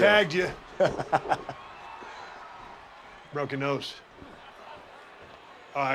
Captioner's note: laugh